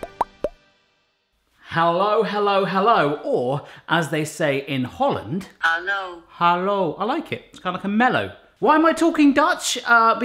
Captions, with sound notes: Hello, hello, hello, or as they say in Holland, - [Automated Voice] Hallo. - I like it, it's kind of like a mellow. Why am I talking Dutch?